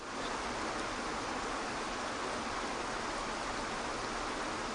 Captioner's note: water rushing